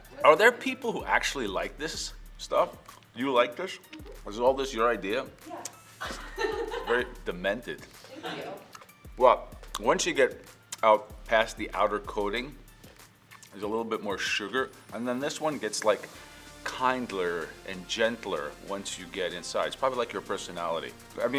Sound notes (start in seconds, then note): 6.0 laughs